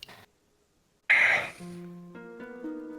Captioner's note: sighs